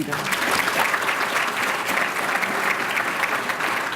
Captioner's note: applause